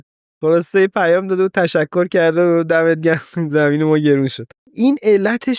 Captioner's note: laughs